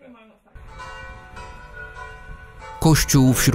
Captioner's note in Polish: bicie dzwonu